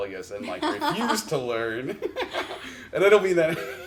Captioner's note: chuckles